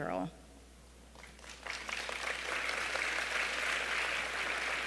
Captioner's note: applause